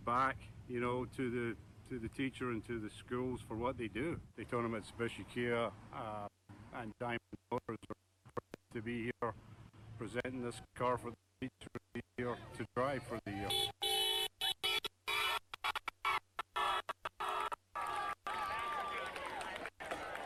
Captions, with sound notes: to the teacher and to the schools for what they do. They talking about special care and Diamond Motors are proud to be here, presenting this car for the teacher of the year to drive for the year. (horn honking) (cheering)